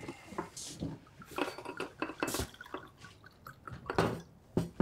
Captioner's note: liquor splashing